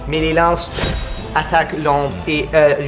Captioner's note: spear strike